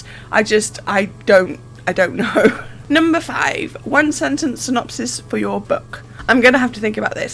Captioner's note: laughs